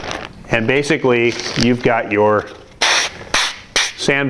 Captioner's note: blocks scraping